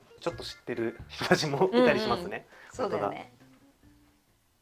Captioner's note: laughs